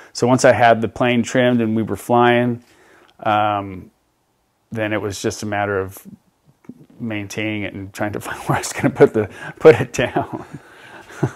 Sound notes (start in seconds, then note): 10.0 laughs